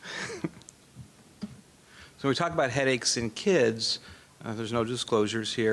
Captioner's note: laughs